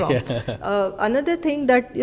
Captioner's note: laughs